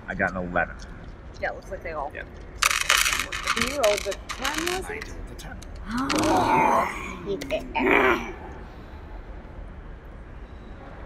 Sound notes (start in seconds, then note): 2.6 dice clatter; 5.9 excited growl